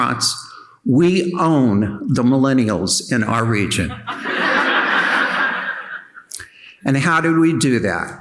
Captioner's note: audience laughing